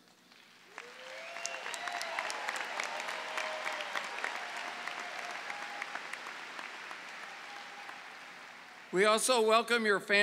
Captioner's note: clapping